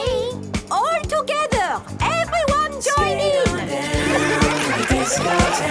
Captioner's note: laughter